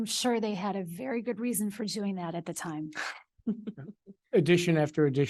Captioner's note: laughs